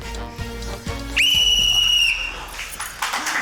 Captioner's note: blows whistle; applause